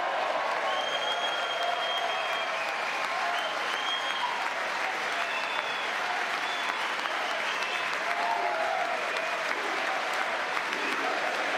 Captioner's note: cheering